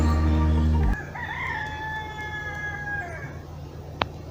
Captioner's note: rooster crows